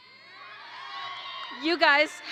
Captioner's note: audience applauds and cheers